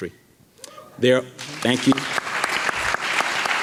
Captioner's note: audience clapping